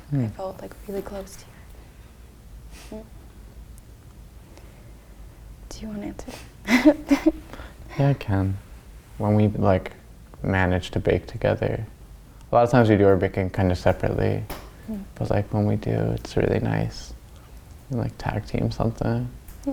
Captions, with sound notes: I felt really close to you. Do you wanna answer? (laughs) - Yeah I can, when we manage to bake together. A lot of times we do our baking kind of separately but when we do, it's really nice, we tag-team something.